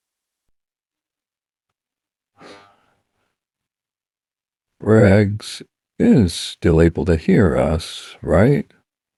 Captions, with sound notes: [Sighs heavily] Raggs is still able to hear us, right?